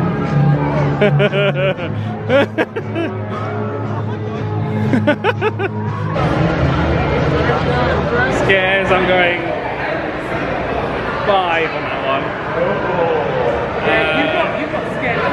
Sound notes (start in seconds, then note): 1.0 laughing